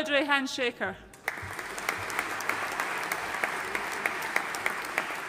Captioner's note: audience applauding